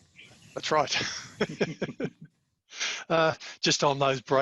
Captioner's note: laughs